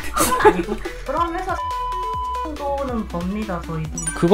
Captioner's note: beep